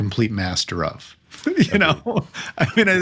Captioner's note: laughing